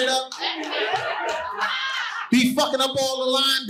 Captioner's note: audience laughing